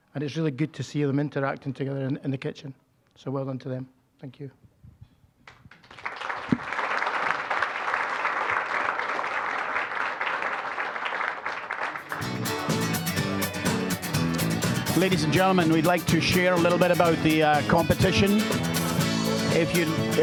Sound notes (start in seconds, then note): 5.5 applause; 12.0 upbeat fiddle music